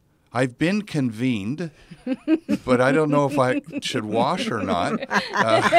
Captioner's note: laugh